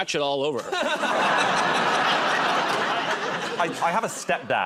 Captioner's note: laughter